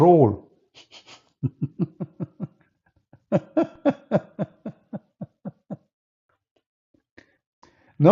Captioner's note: Ketawa